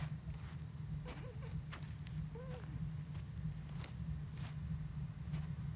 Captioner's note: Iris whimpering softly